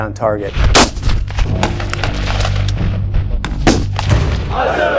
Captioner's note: gunshots